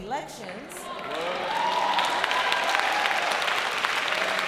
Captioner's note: applause